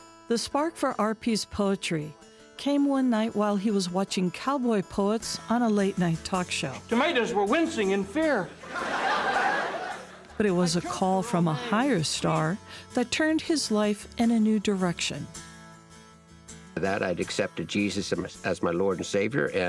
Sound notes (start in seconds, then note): 8.5 laughing; 15.6 guitar music